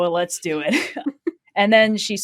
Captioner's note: laughs